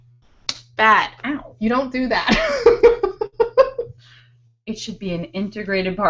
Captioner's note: laughing